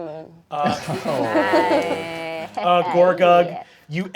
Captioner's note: cast laughing